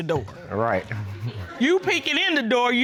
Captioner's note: chuckles